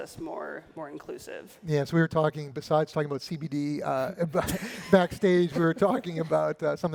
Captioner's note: laughter